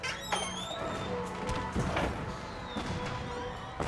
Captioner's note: door squeaks